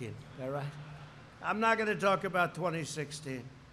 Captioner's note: laughter